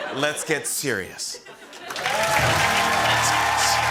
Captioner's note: cheers and applause